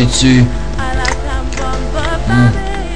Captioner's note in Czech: Mláská